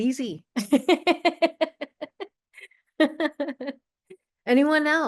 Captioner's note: chuckling